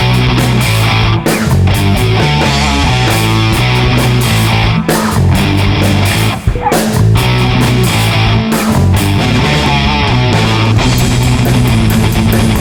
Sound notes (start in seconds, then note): 4.2 laughs